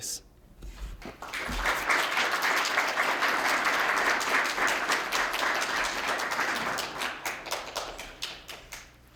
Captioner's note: applause